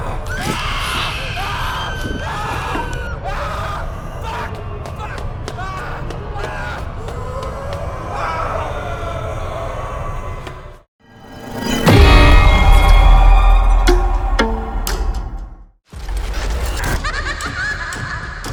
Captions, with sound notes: (screeching) (Keith shouting) Fuck! Fuck! Ahhh! Ahhh! (mummies groaning)